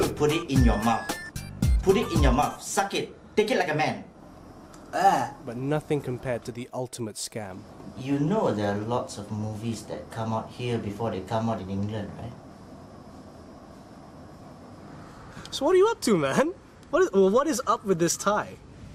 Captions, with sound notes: Put it in your mouth. Put it in your mouth, suck it, take it like a man. [gagging] But nothing compared to the ultimate scam. You know there are lots of movies that come out here, before they come out in England, right? So what are you up to man? What is up with this tie?